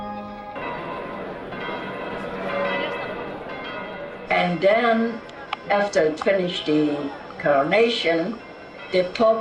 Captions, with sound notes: (bell pealing) And then after finish the coronation,